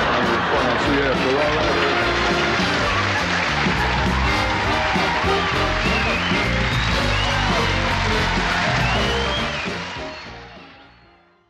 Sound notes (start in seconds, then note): 2.4 cheering